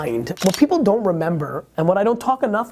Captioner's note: shutter click